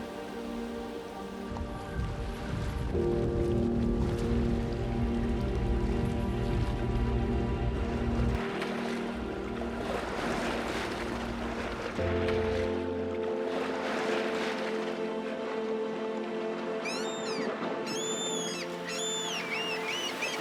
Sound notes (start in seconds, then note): 10.3 waves crashing; 16.8 seagulls calling